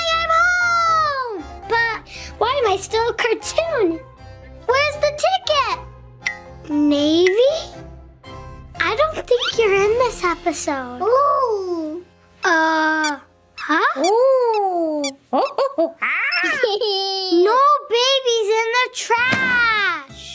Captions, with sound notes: Yay I'm home, but why am I still a cartoon? Where's the ticket? Navey, I don't think you're in this episode. - Oh! - Huh? (monkey screeching) - No baby's in the trash!